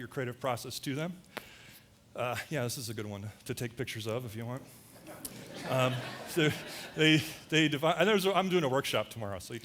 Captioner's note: audience laughter